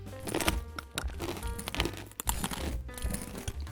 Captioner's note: glass crunching